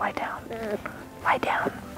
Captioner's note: puppy whimpers quietly